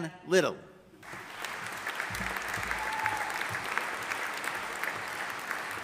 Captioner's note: audience applauding